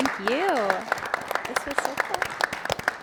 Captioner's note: people clapping